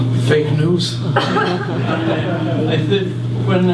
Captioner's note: audience laughs